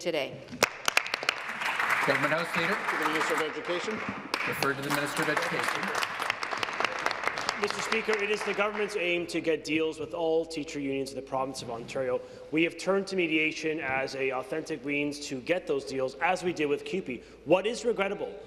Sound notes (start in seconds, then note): 4.0 applause